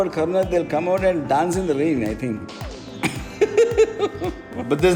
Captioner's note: laughs